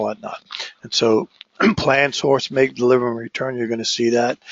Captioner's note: cough